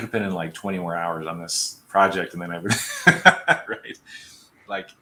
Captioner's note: laughter